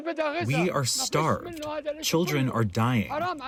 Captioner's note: through translator